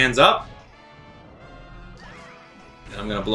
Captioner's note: gaming sounds